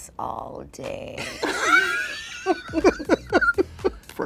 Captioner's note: laughter